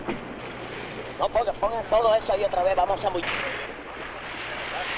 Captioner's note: men speaking in Spanish